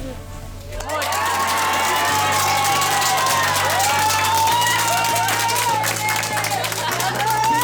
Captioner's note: applause